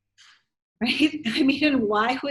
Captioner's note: laughs